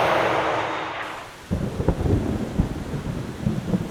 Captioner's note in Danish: torden buldrer